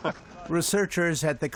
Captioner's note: laughter